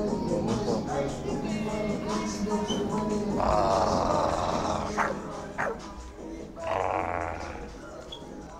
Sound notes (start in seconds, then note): 3.3 growling